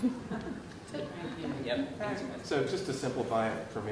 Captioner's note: group murmuring